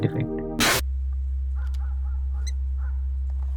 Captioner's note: distant dog barking